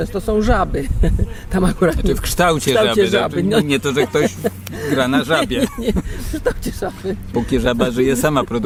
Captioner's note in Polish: śmiech